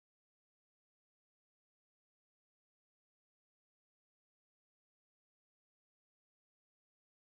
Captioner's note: none